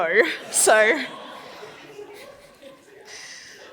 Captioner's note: laughs